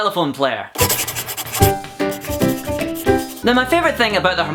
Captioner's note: pencil writing